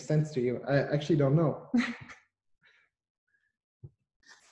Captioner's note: chuckles